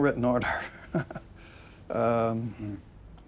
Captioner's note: chuckles